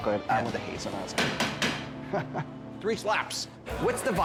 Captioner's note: banging noise